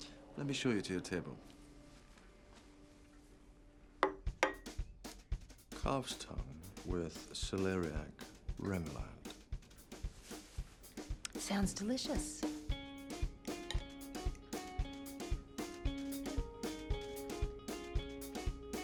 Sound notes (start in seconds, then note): 4.2 plate thuds; 12.8 upbeat music